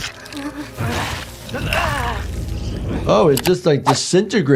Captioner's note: Phase Two groaning